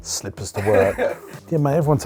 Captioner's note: laughter